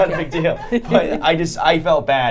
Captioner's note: laughing